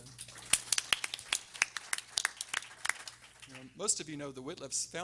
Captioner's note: everyone applauding